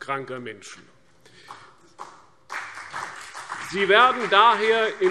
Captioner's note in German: Beifall CDU und BÜNDNIS 90/DIE GRÜNEN